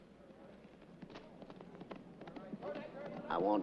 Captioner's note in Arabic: الحوافر تضرب برفق